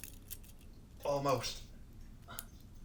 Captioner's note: metals cling